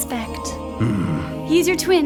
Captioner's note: grunts